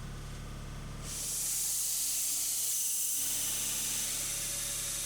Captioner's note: saw whizzing